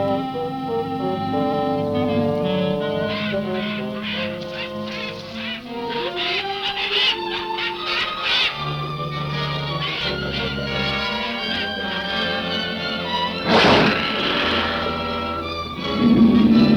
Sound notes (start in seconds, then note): 3.8 bird cawing; 13.2 leopard snarling